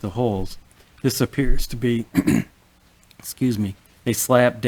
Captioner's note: clears throat